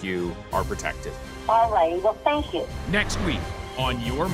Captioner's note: woman over phone